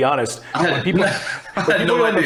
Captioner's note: laughter